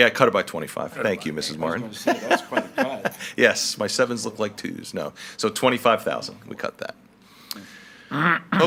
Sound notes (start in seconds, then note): 2.0 laughs